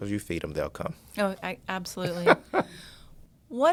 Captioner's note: laughs